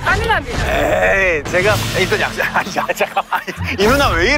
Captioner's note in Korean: 하아